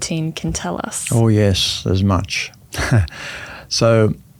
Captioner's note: chuckles